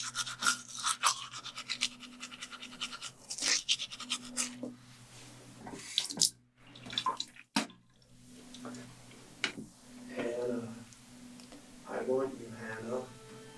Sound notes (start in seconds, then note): 6.7 water splashes; 7.6 Hannah spits